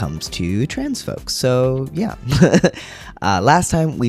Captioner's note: laugh